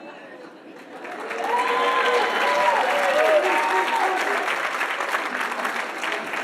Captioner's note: audience laughing; audience applauding and cheering